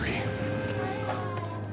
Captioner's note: door creaks